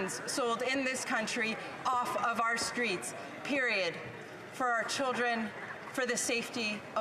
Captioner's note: none